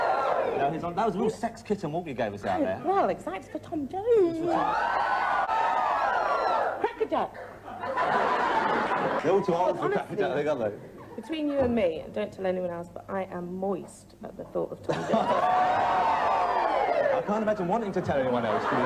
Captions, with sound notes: That was a real sex kitten what you gave us out there. Well exactly, for Tom Jones. (Cheering) Crackerjack! They're all too old for Crackerjack. Between you and me, don't tell anyone else, but I am moist at the thought of Tom Jones. I can't imagine wanting to tell anyone else.